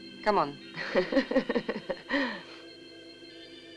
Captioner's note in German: Gianna lacht